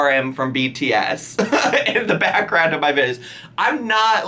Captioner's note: laughs